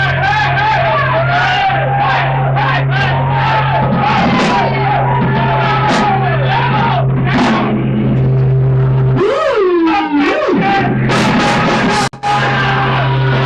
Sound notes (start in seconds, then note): 0.0 crowd cheering and yelling